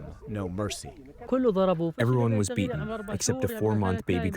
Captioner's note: through translator